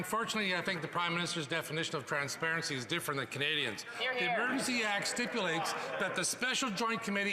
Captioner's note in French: voix de l'interprète